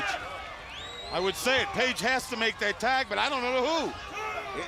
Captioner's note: crowd cheering